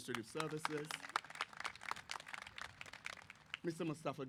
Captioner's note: applause